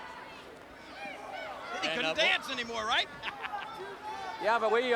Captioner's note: laughing